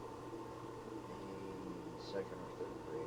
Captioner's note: none